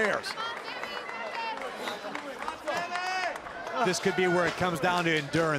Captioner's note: crowd cheering